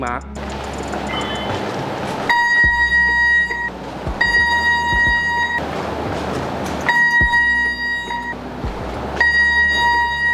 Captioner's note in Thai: เสียงเครื่องตรวจจับโลหะดังขึ้นระหว่างการทดสอบ